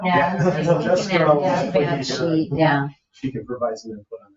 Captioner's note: people chuckle; people chatter